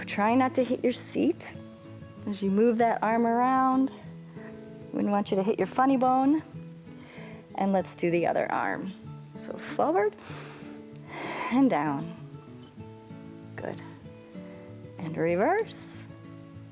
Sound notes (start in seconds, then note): 11.0 inhales